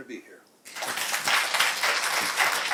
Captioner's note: applause